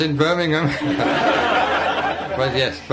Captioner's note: laughter